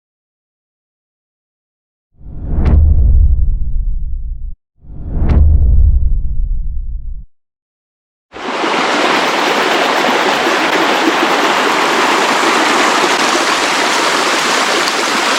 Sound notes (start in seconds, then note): 2.2 powerful whoosh sound; 8.4 water running